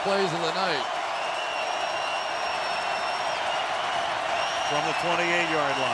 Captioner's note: crowd cheering